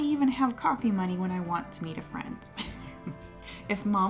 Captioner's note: laughs